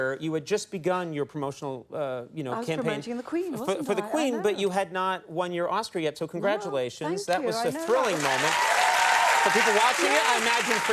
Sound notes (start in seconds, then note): 7.5 audience applauding